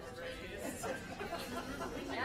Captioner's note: laughter and applause